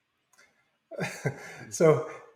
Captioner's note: laughs